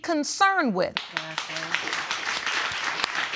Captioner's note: audience applauds